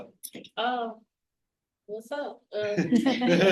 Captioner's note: laughter